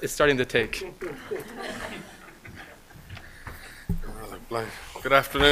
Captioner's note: laughter